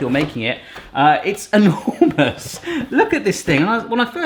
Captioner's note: laughs